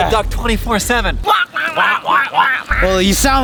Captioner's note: quacking